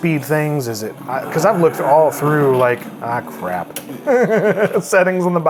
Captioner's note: laughs